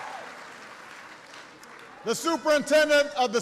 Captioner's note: applause